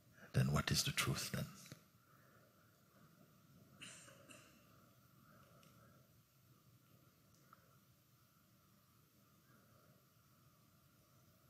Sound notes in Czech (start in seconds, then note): 5.4 ticho